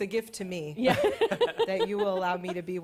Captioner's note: laughter